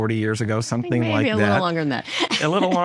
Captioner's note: laughs